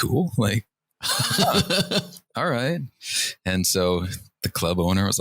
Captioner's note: laughter